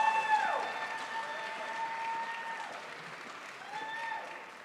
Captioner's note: crowd applauds